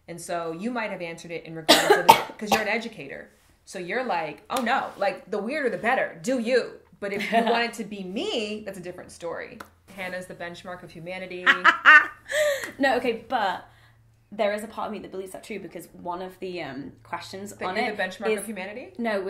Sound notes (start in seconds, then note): 1.7 coughs; 11.5 laughs